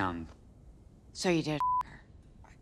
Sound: beep

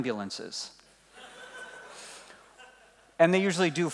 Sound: laughing

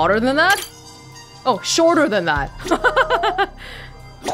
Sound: chuckles

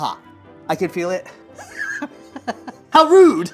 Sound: laughs

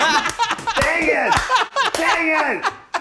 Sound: laughing

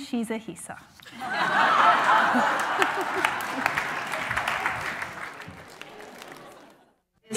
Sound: laughing

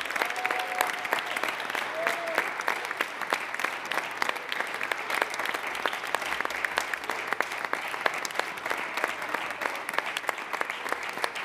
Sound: applause

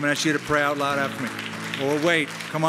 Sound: applause

